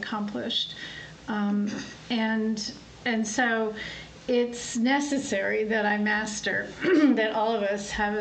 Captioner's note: clears throat